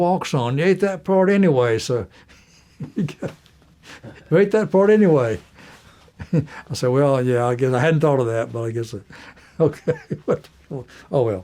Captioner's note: laughter